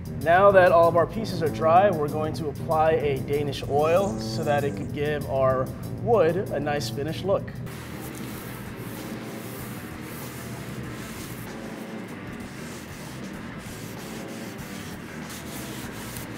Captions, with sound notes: Now that all of our pieces are dry, we're going to apply a Danish oil so that it can give our wood a nice finished look. (rough rubbing)